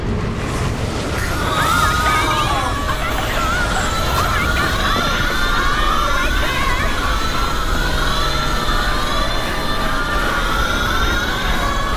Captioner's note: scary intense noises